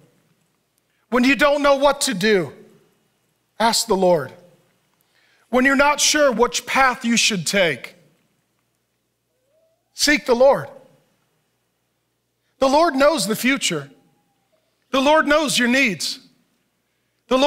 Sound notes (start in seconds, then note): none